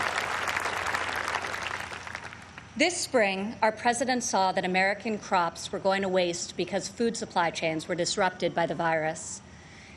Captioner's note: applause